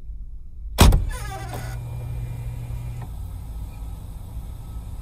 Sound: trunk pops and creaks

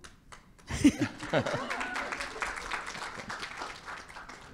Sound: audience claps

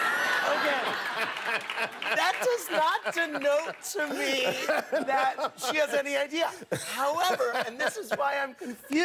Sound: laughter

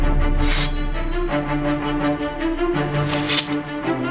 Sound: sword clinks; sword unsheathes; sword clinks

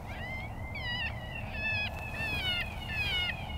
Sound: rabbit calling

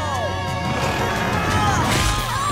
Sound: grunting

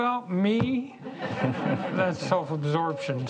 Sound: audience laughs

